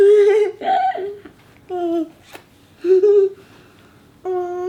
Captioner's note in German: lacht